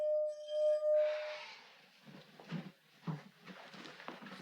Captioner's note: Stevie sighing